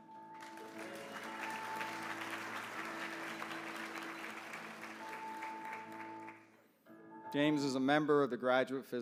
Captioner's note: applause